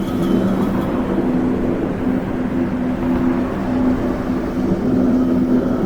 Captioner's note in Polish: the sounds of a moving tram